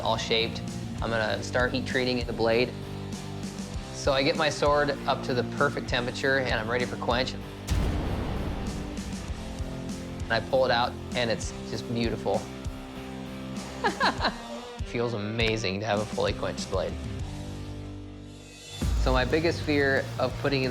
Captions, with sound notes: I'm going to start heat treating the blade. So I get my sword up to the perfect temperature, and I'm ready for quench. And I pull it out, and it's just beautiful. [laughs] It feels amazing to have a fully quenched blade. So my biggest fear of putting in this fuller